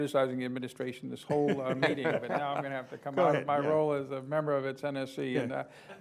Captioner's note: laughter